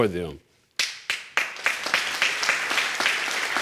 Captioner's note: audience applauding